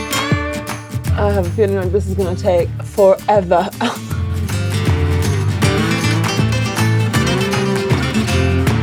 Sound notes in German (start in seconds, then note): 3.2 lacht; 4.1 fröhliche Musik